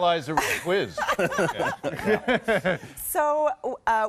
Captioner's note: laughing